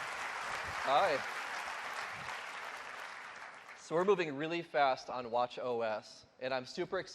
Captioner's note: cheers and applause